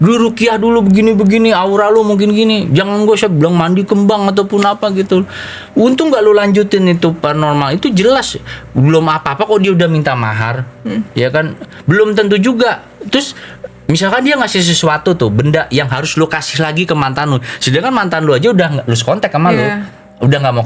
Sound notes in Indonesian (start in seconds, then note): 10.8 tertawa